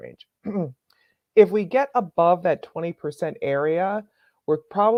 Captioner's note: clears throat